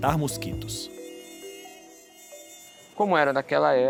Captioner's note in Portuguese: zumbido